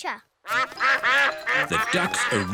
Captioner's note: quacking